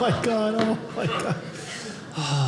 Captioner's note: audience laughing